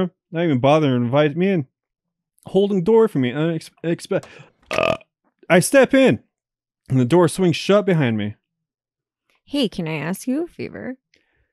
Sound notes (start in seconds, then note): 4.6 belches